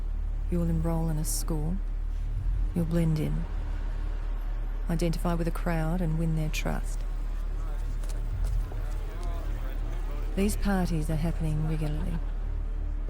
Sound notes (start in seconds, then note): 6.9 indistinct chatter